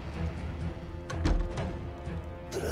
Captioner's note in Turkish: Kapı kapanma sesi